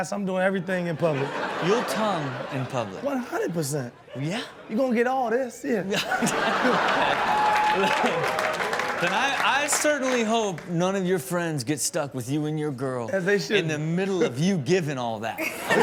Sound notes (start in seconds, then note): 5.9 everybody laughs; 15.4 Chanel and audience laugh